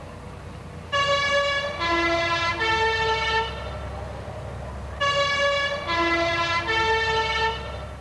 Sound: siren goes off

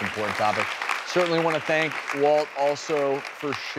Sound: audience applauds

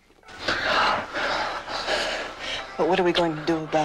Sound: heavy Breathing

